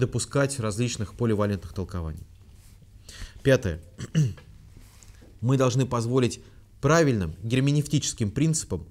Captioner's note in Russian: откашливается